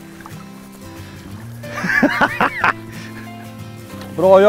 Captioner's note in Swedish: skrattar